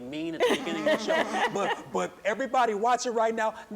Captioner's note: chuckling